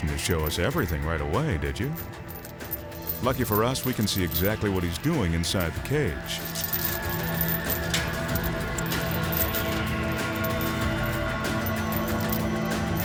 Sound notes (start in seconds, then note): 6.5 chains clanking; 6.5 suspenseful music